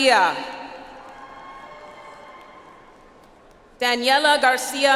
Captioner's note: audience applauds